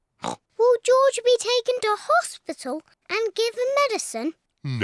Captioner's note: oinks